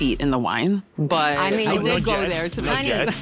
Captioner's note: laughing